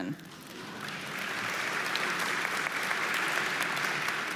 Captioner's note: audience applauding